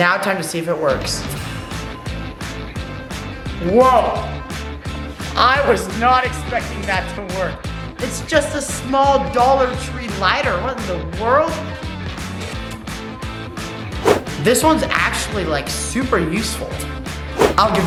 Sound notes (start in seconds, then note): none